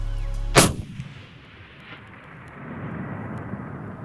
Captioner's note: gun firing